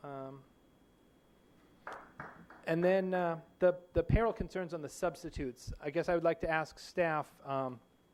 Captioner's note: applause